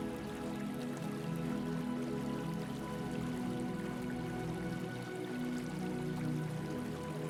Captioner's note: water trickling